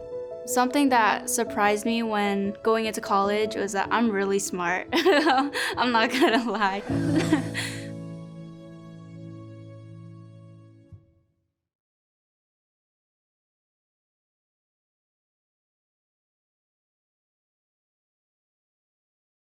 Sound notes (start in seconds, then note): 5.0 laughs